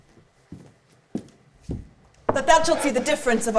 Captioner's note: footsteps clomping